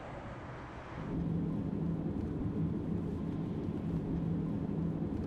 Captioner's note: vehicle engine rumbling